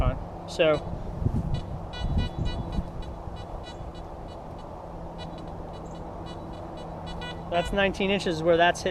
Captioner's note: detector beeps